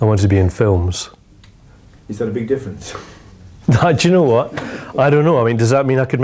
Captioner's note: laughs